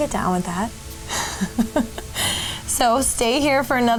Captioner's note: laughing